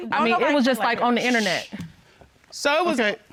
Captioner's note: shushes